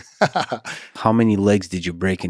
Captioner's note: Craig laughs